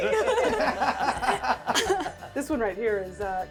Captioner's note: all laughing